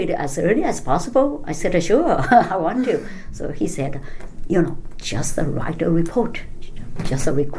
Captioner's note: laughs